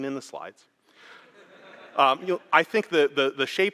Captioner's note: laughter